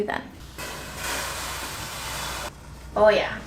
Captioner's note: sizzling sound